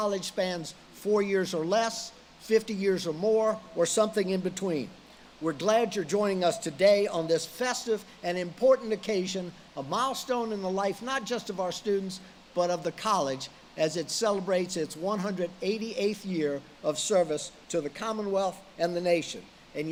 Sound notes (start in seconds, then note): none